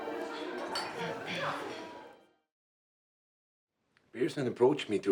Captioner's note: Louise clears throat